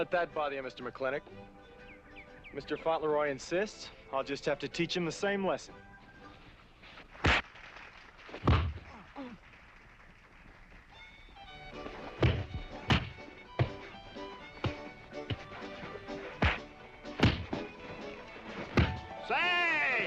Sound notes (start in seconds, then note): 8.8 crowd applauding in distance; 9.6 grunting